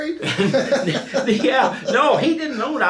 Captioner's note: laughing